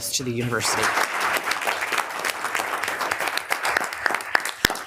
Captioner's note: group applauds